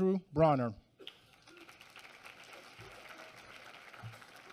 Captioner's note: applause